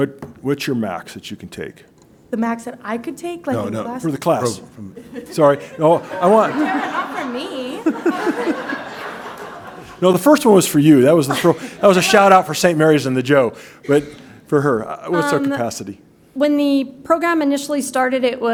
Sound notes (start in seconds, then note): 7.6 laughter